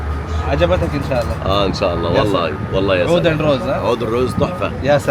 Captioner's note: Arabic